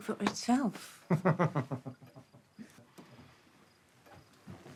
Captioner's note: William laughs